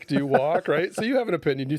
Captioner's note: laughing